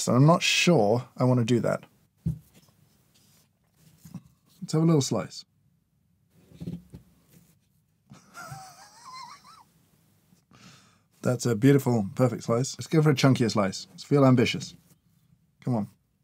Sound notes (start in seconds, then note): 8.1 chuckles